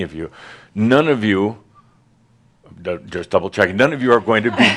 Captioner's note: some laughter